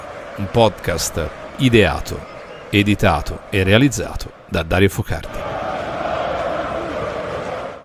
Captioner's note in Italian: Applauso